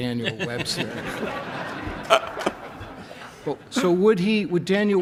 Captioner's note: laughs